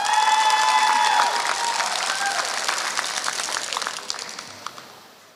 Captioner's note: applause